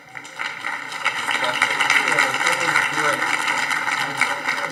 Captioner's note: audience applauding